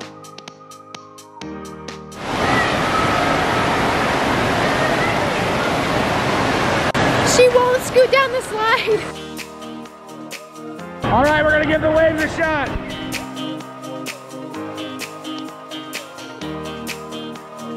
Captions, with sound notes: (water roaring) - She won't scoot down the slide! - All right we're gonna give the waves a shot. (Upbeat Music)